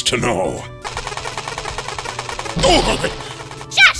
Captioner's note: ray gun “firing”